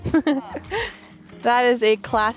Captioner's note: laughing